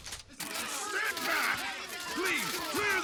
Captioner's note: reporters clamouring